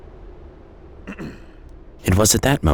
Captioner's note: man clearing throat